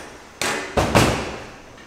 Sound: thu-THUD

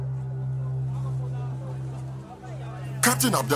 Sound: all chattering

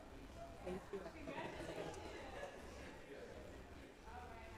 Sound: talking quietly

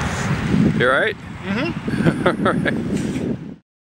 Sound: laughs

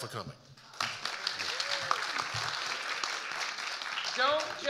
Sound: audience applauding

